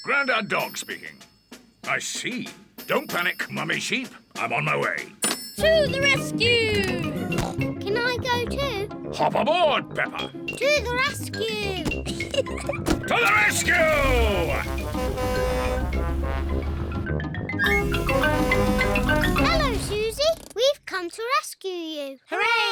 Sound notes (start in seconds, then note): 7.1 snorts; 13.8 horn blares